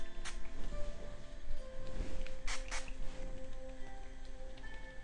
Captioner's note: spray bottle spritzing